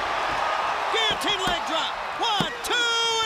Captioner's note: crowd cheering